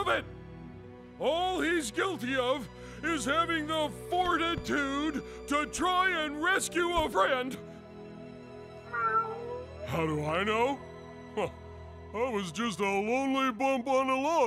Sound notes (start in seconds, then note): 8.9 meows